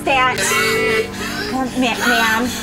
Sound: medical machine beeping

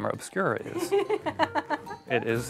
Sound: laughs

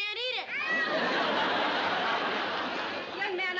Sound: sobbing

